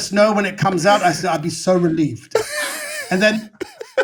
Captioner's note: all laughing